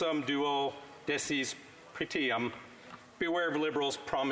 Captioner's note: speaking Alternate Language